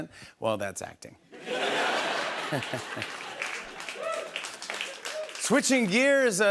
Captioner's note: laughter and applause